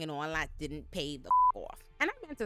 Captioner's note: beep